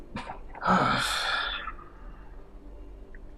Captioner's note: sighing